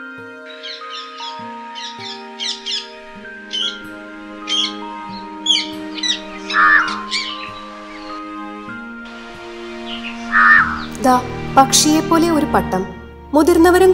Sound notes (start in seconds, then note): 0.2 rose-ringed parakeet female call; 6.7 house crow call